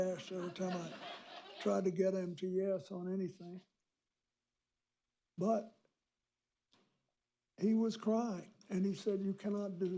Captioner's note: laughter